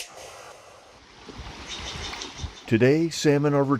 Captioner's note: water swishing